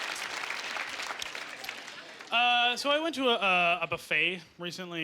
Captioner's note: clapping